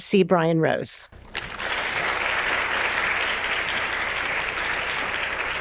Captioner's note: audience applauding